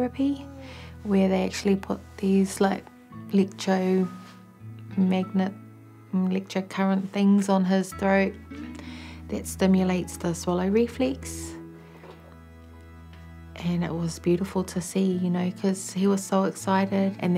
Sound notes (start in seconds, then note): none